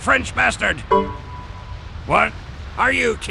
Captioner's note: Windows 98/2000/ME error sound